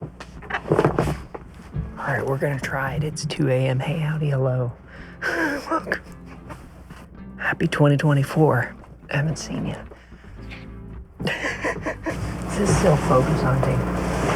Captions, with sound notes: (upbeat music) All right, we're gonna try it. It's 2 a.m. Hey, howdy, hello. Welcome. *laughs* Happy 2024. I haven't seen you. (laughing) Is it still focus hunting?